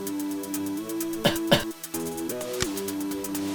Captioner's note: cough